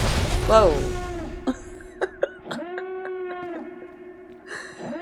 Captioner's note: laughs